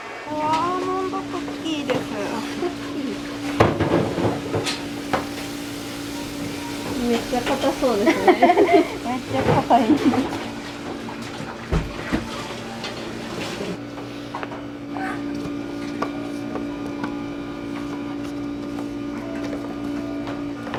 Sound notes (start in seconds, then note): 7.6 laughs; 8.0 laughter